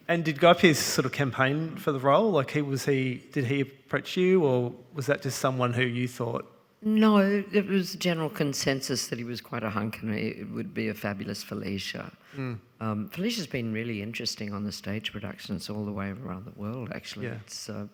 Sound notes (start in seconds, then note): none